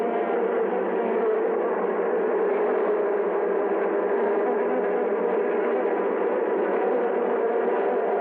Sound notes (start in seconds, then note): 0.0 bees buzzing